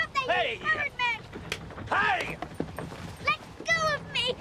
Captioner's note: slapping